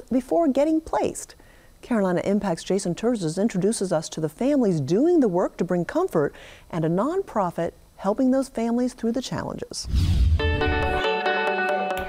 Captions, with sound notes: before getting placed. Carolina Impact's Jason Terzis introduces us to the families doing the work to bring comfort and a nonprofit, helping those families through the challenges. (air whooshing) (upbeat music)